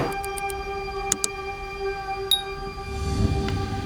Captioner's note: dramatic whooshing; mouse clicking; bell ringing; gentle ethereal music